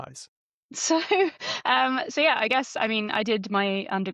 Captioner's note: laughs